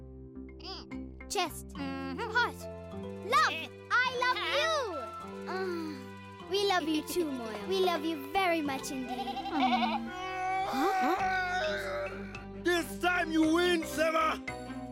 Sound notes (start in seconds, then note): 9.1 bleating; 10.5 growling